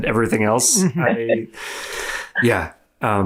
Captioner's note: chuckles